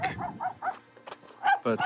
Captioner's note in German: Hundebellen